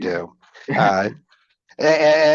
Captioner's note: chuckling